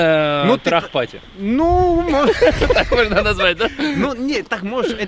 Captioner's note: laughs